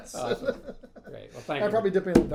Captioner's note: laughing